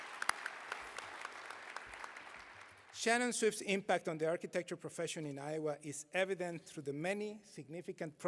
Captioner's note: applause